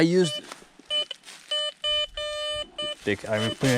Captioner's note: metal detector beeping